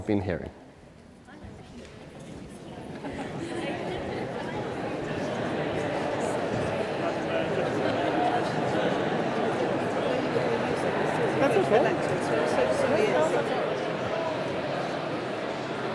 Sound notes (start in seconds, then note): 1.2 people in audience talk to each other